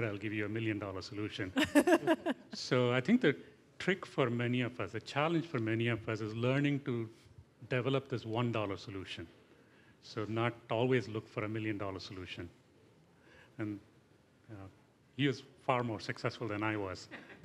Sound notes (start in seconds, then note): 1.6 laughter